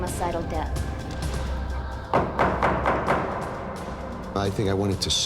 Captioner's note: gavel banging